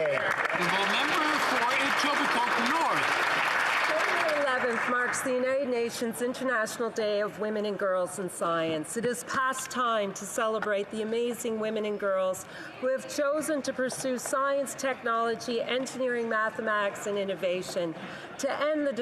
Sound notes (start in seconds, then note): 3.2 some Applause